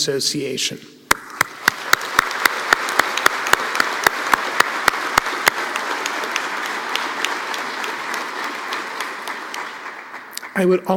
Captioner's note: applause